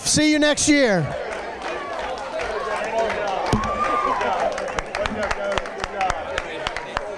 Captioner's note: applause